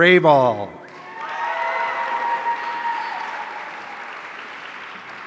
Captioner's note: audience cheering